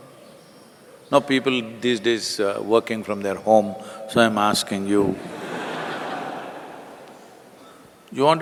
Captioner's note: laughter